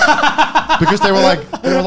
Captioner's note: laughing